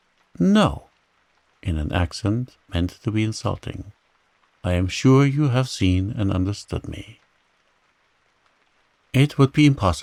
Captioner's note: in an accent meant to be insinuating